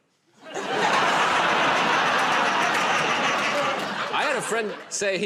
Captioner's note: laughter